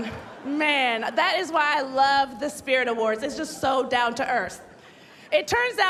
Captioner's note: laughter